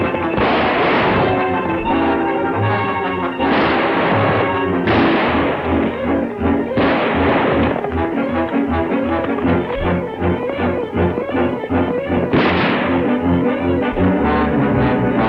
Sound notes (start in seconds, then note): 0.2 gun fires; 12.3 gun fires